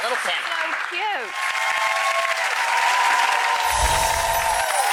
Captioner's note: audience applauds